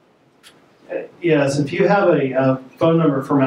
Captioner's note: voiceover